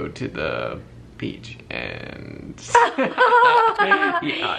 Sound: both laugh

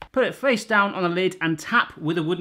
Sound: tapping

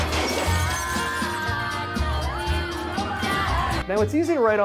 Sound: dishes crashing

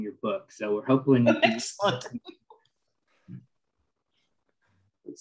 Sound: laughter

